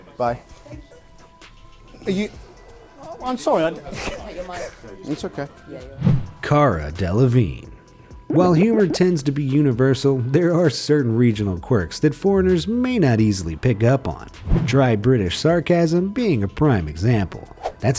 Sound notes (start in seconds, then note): 3.8 laughs